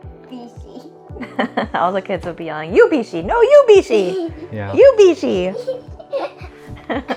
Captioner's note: laughs